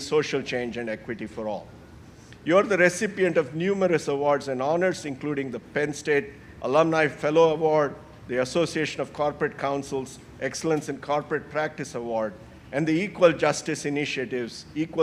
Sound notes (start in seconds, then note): none